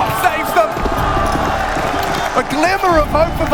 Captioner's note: crowd cheers